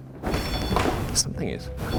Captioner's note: REM-POD beeps